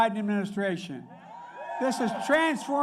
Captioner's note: applause